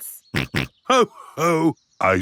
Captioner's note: snorts